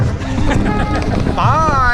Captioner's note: laughs